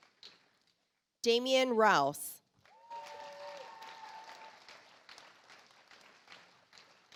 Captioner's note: audience applauds